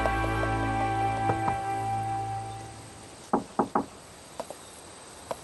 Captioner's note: knock knock